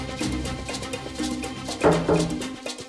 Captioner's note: knocks on door